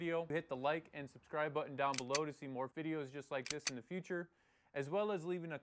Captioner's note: gun cocks